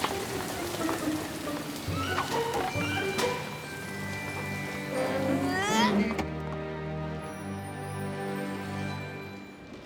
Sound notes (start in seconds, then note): 5.0 grunts